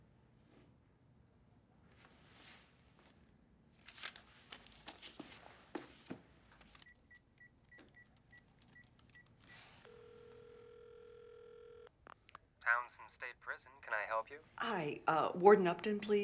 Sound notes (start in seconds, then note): 6.2 phone dialing & ringing